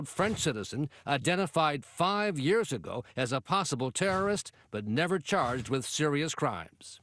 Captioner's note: explosion